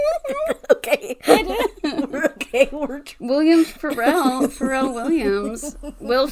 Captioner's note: laughs; laughing; laughs